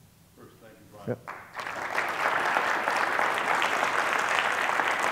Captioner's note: crowd applauding